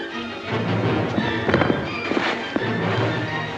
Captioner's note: suspenseful music; sounds of scuffling; thump; suspenseful music